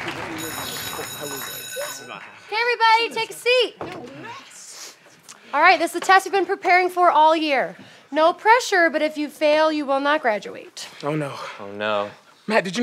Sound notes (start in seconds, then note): 0.0 applause; 0.3 bell ringing